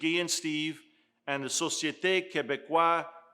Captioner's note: speaking in foreign language